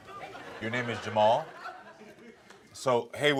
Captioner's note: audience laughs